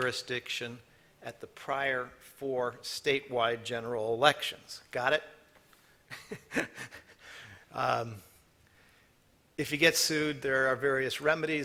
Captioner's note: laughter